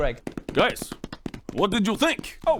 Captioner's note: muffled applause